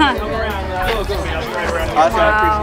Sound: crowd chatters

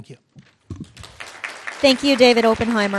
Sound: audience clapping

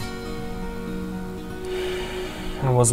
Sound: sighs

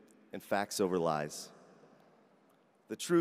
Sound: none

